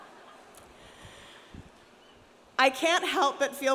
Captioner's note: audience laughs